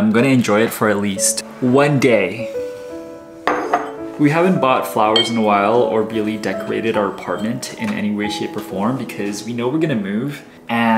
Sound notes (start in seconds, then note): 3.4 vase clinking